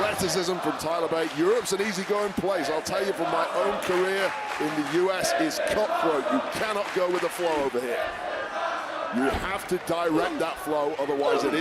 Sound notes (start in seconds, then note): 5.1 crowd cheers